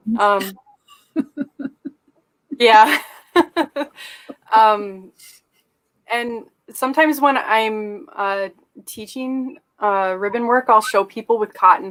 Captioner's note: laughter